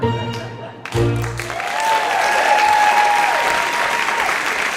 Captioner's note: audience applauding